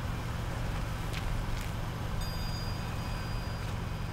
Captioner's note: footsteps